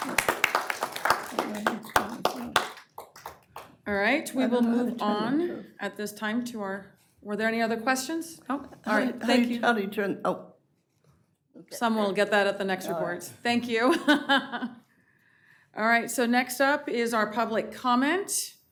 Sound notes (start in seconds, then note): 2.7 applause